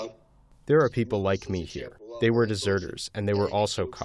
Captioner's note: through translator